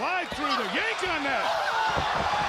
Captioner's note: crowd cheering